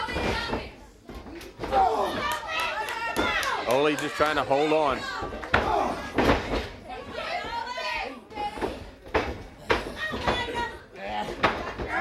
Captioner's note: crowd chatter